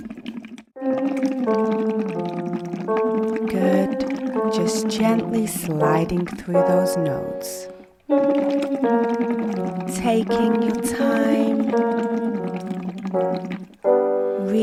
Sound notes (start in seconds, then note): 0.8 humming continues; 0.9 ascending piano scales; 8.0 humming continues; 8.2 piano scales continue; 12.3 humming continues; 12.3 piano scales continue